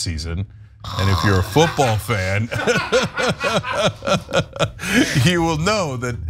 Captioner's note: laugh